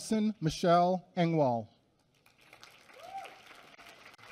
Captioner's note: applause